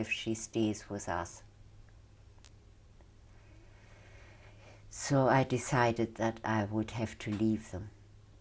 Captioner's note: pauses for 3 seconds